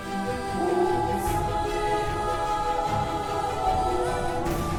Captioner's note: wolves howling